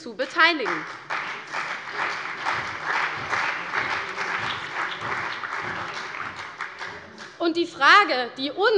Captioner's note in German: Beifall bei der CDU und dem BÜNDNIS 90/DIE GRÜNEN